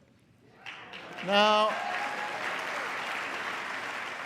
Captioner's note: applause